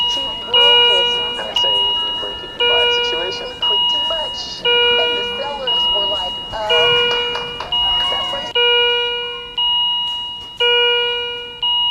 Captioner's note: alarm sounding